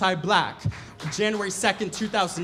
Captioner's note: audience members applaud